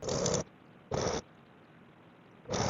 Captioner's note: tiny jackhammers